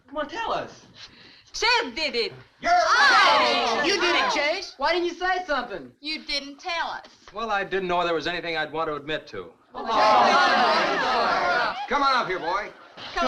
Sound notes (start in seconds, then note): 2.7 crowd groans; 9.8 crowd shouting